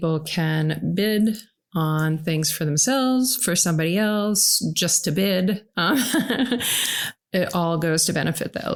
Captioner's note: laugh